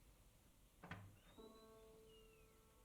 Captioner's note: door clicking; gentle orchestral music